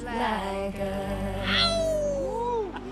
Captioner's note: man howls